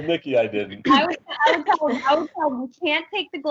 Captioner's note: audio distortion